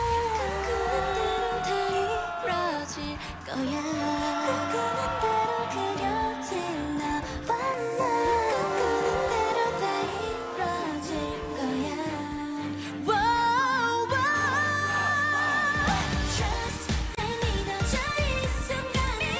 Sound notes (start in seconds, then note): 14.2 fanchant